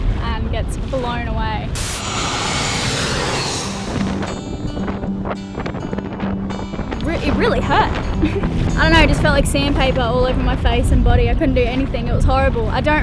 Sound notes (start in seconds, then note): 1.7 aeroplane whirring